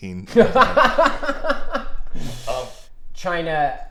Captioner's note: laughs